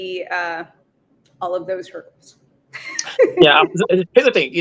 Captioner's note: laughs